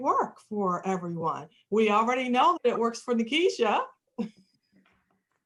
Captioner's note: laughter